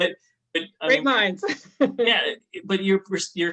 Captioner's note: chuckles